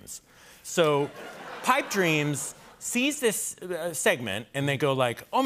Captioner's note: laughter